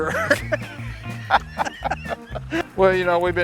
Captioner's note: laughter